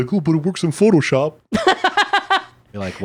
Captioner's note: laughing